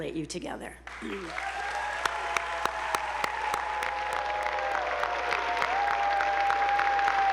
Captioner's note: attendees applauding; audience whooping